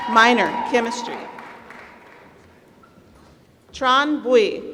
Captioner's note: applause